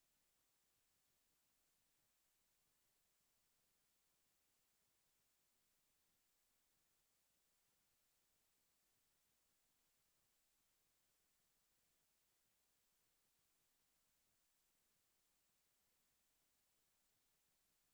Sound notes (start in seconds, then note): none